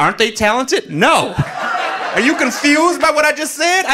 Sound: audience laughing

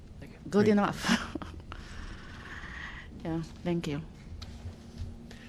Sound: laughter

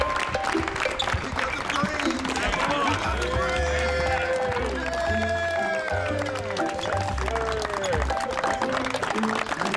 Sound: applause

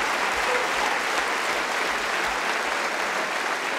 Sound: cheering & Applause

